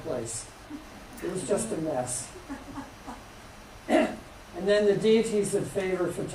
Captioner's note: laughter